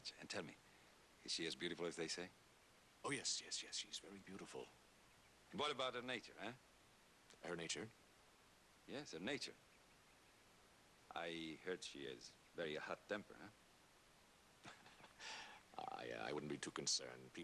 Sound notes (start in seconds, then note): 14.6 chuckles